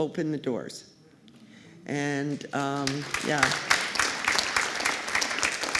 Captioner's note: applause